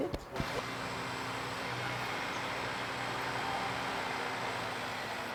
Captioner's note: machine motor revving